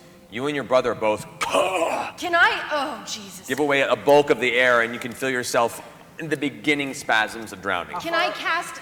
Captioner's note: coughs